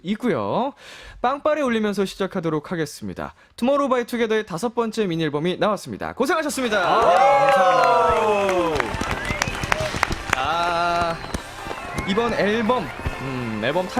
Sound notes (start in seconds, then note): 6.6 applause